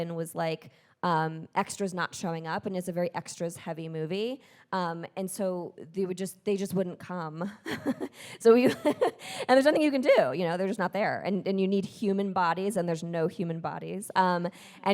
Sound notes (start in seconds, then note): 7.6 chuckling